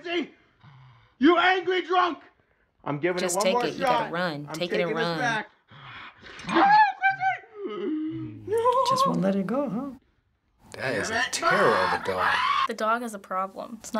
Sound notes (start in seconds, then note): 5.3 dog snarls; 6.5 man squeals; 7.5 shrill gasp